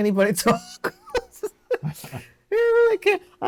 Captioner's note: laughter